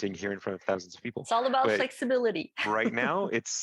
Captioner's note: laugh